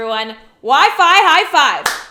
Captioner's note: clapping